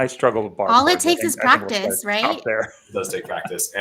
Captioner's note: laughter